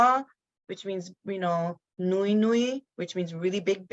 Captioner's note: speaks in foreign language